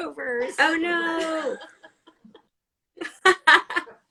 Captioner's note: laughs